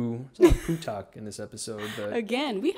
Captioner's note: laughing